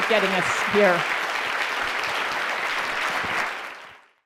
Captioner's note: crowd applauds